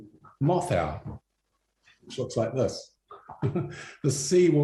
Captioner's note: chuckles